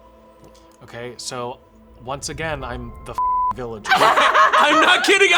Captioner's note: beep